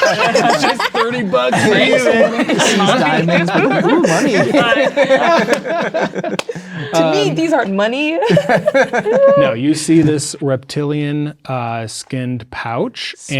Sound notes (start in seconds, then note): 0.1 players talking and laughing; 5.0 players talking and laughing; 8.2 players laughing